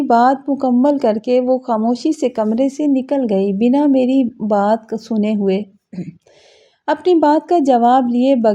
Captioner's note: clears throat